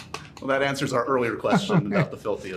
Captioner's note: laughter